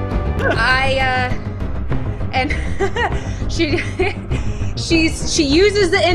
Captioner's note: giggles